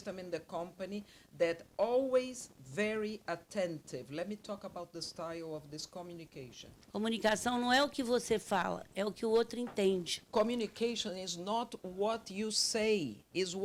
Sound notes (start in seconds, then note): 7.1 speaking Portuguese